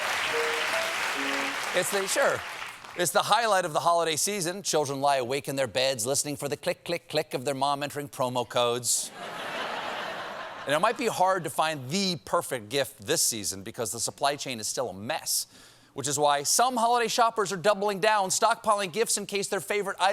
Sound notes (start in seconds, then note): 0.0 piano riff; 9.1 laughter